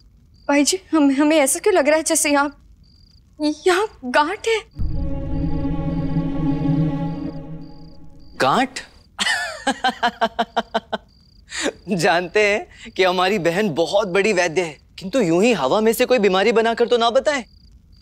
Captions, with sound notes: why do I feel there is a knot here? Knot? [laughing] I know that my sister is a great physician. But don't just create any fake illnesses.